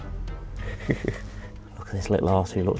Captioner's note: chuckles